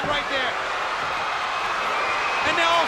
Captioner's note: crowd cheering